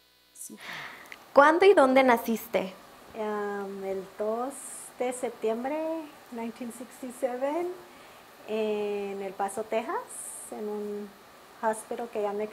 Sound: speaking Spanish

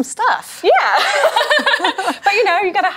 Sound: both laugh

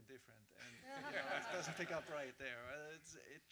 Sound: audience laughs

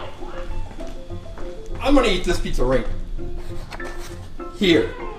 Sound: voiceover

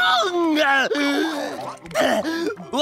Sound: gasping

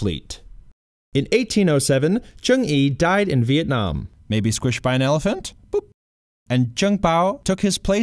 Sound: boop!

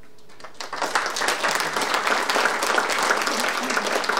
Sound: audience applauding

